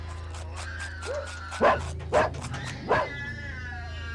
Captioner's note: dog barking